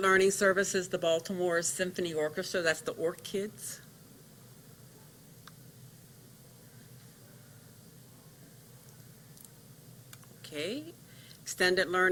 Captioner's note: silence